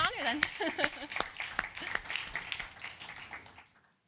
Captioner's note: applause